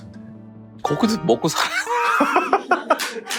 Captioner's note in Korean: 익살스러운 효과음; 웃음